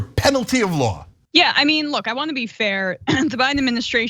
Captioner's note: cough